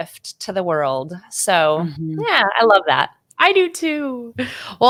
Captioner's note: chuckles